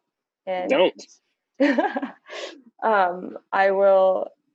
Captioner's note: laughs